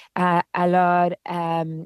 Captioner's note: speaking french